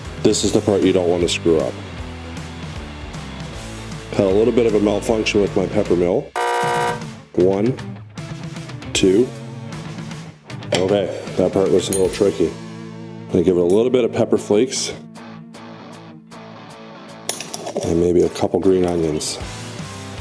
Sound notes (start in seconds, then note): 6.3 buzzer beeps